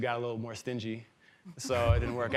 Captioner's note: chuckling